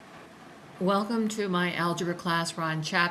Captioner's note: voiceover